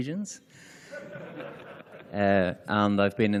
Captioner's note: laughter